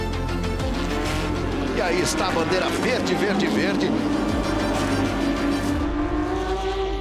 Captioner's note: engines revving